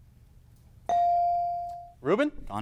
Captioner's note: bell dings